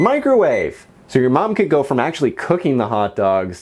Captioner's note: microwave beeping twice